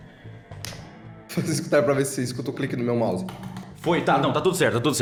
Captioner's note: mouse clicking